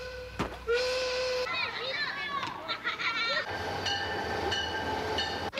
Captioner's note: train hooting; chatter and laughter